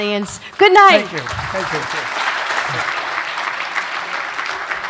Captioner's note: applause